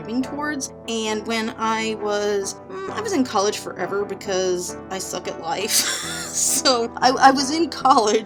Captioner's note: laughing